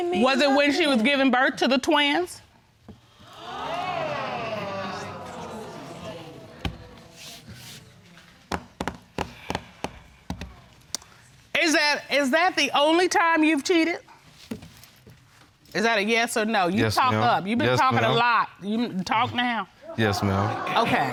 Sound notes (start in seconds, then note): 3.1 audience gasping; 9.6 drumming nails